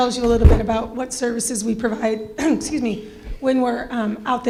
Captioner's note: clears throat